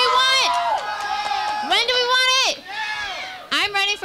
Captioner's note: crowd